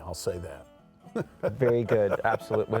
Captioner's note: chuckles